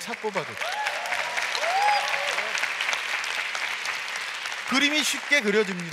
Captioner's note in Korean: 박수와 환호